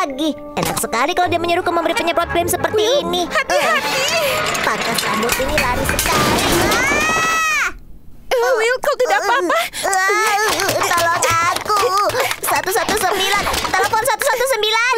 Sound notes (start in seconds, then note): 7.7 yells; 10.7 grunts